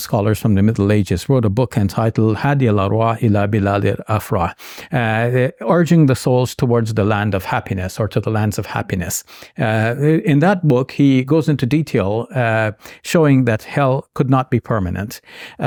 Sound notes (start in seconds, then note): 2.4 speaking in Arabic